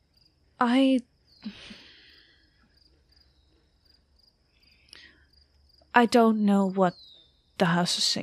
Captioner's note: exhales